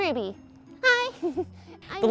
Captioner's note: giggles